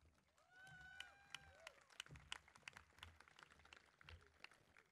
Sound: crowd clapping

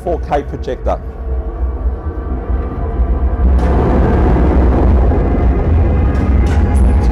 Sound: plane engines running; gun shots

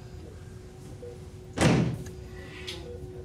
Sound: door closing

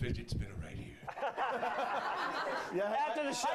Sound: laughter

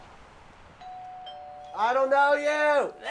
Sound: doorbell rings

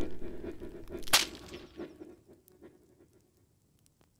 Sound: snapping

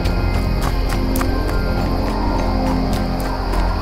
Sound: quick footsteps

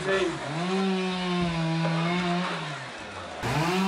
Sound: chainsaw noise outside

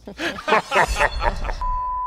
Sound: laughs; evil laugh

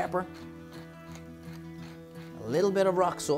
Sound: pepper mill grinding

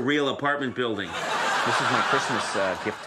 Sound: audience laughs

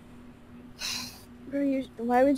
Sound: sighs

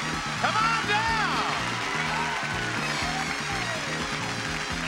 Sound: audience cheering

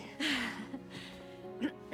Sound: laugh

